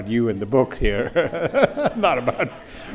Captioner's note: audience laughs